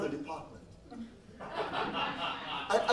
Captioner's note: laughs